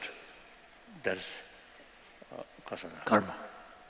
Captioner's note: non-english